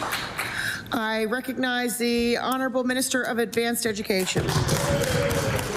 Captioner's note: applause